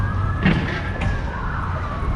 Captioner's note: crunch